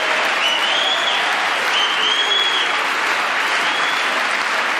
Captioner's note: applause